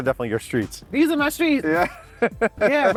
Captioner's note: laughs